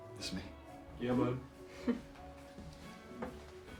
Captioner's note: chuckles; soft rock music continues